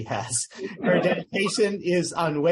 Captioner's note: laughter